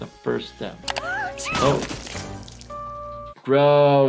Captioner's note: Giggles sneezing